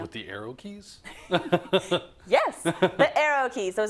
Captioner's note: laugh